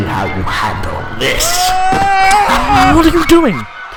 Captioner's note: screams